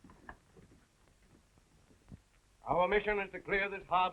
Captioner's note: none